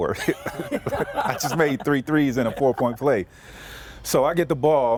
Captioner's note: laughter